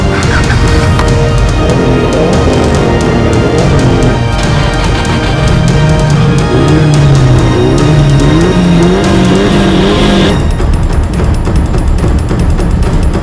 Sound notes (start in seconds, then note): 0.0 Engine starts and Subaru exhaust noises; 4.1 Engine starts and Dirty SR20 exhaust noises